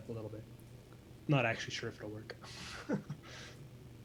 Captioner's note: laughs